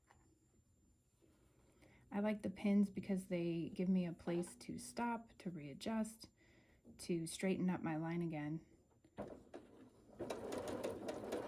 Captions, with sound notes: I like the pins because they give me a place to stop, to readjust, to straighten up my line again. [sewing]